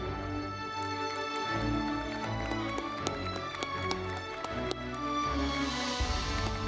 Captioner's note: audience clapping; ceremonious music